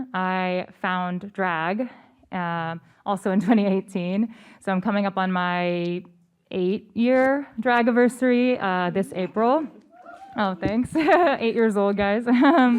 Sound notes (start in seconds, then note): 9.7 cheers